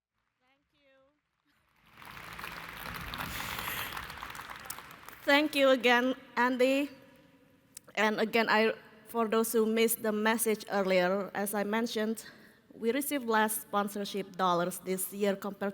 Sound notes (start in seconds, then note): 1.7 applause